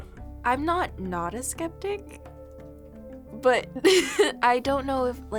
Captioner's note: laughs